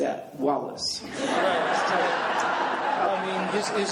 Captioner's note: laughing